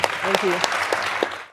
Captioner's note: all clapping